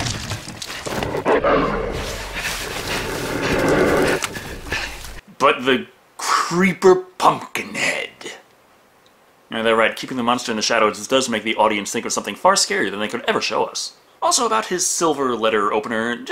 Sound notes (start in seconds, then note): 0.8 growling